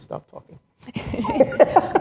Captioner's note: laughs